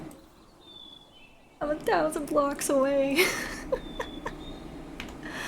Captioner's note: pained laughter